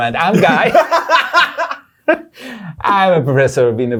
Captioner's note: laughter